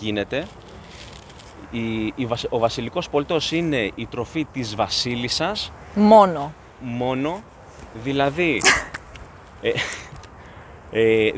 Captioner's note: laughs